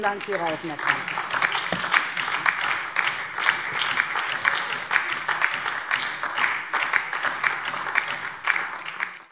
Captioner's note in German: Beifall DIE LINKE